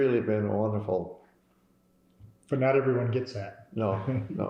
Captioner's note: laughter